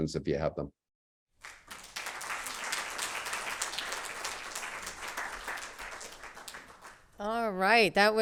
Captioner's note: applause